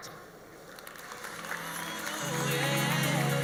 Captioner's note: audience applauds; mellow pop music